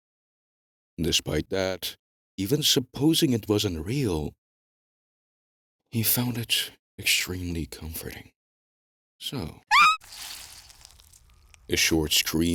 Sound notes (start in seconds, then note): 9.7 short scream